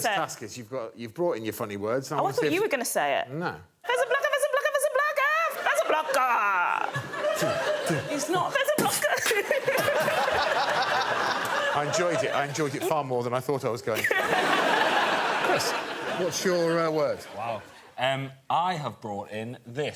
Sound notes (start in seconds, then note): 6.9 beat boxing; 9.1 laughter